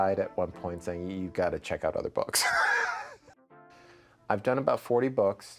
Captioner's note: laughing